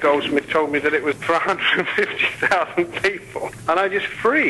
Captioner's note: laughs